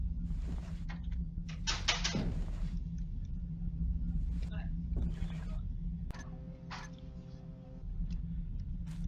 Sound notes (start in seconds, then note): 1.0 clatter picked up by mic, boxes thud